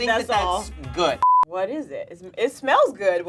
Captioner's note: electronic bleeps